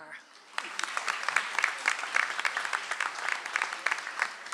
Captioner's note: audience applauds